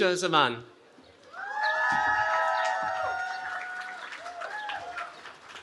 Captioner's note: cheering